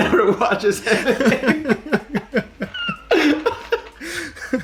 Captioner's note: both laugh